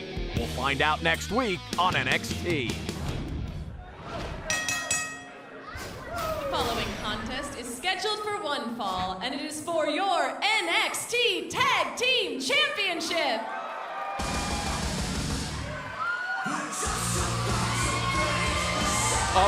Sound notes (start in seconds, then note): 4.5 bell ringing; 14.7 crowd cheering